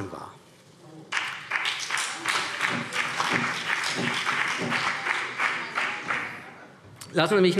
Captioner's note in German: Beifall CDU und BÜNDNIS 90/DIE GRÜNEN